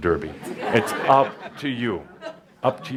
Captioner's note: laughter